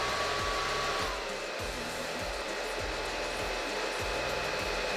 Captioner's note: dryer roar reduces